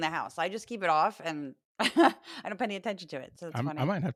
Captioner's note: laugh